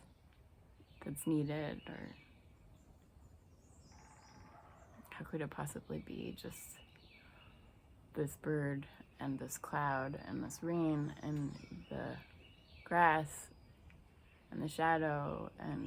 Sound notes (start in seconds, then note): 1.9 woodpecker sounds